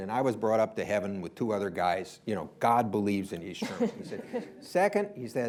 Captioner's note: laughter